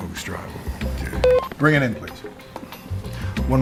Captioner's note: intercom beeps